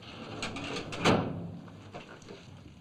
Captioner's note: thud